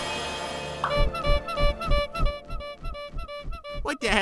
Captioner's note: squeeky horn